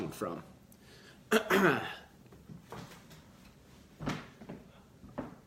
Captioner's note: clears throat